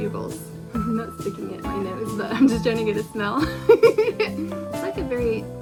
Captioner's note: giggles